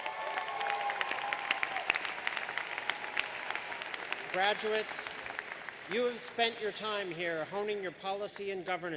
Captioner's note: applause